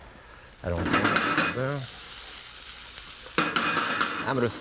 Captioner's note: food sizzling